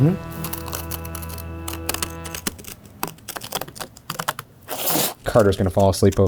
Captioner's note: scissors snipping; paper rustling